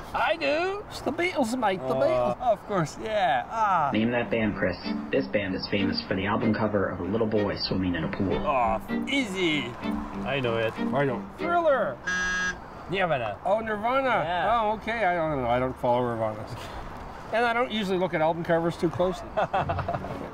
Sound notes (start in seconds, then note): 4.0 on phone; 12.0 buzzer